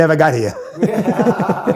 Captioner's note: laughter